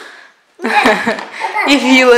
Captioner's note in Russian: Смех